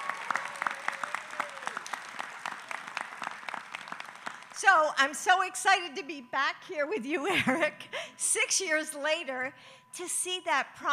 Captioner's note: applause